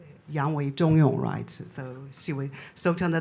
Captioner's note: speaks in Chinese